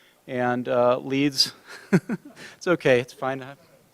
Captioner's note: laughs